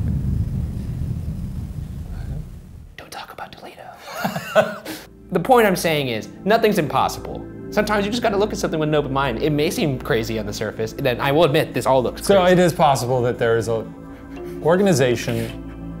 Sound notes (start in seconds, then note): 4.0 laughter